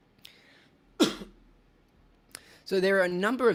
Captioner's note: coughs